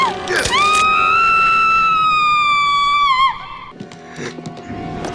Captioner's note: scream